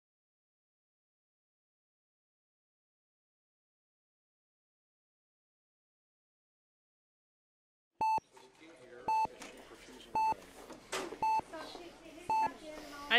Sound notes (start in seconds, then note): 5.5 monitor beeping